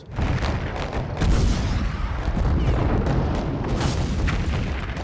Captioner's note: artillery exploding